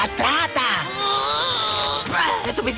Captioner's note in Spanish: Lucas gruñe